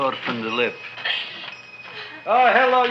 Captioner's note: shop bell chimes